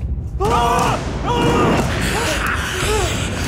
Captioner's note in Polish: krzyki